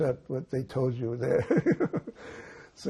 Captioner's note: laughing